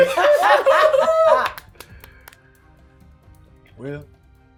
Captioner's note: everyone laughing